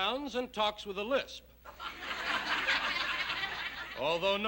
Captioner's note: laughter